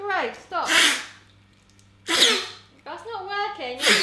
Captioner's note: blows; blowing